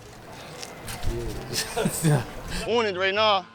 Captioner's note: laughs